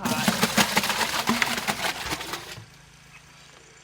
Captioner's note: soup sloshing